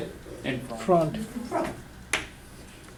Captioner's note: voiceover